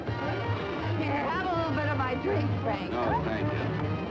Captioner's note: slurring